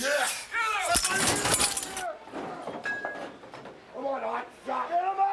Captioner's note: medical equipment rattling